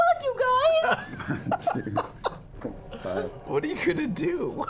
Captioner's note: laughter